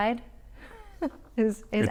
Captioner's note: laughs